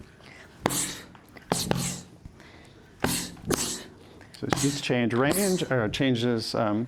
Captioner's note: laughs